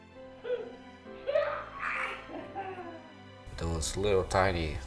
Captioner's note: playful laughter